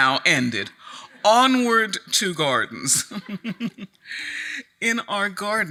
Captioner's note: chuckles